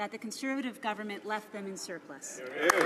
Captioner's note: some Applause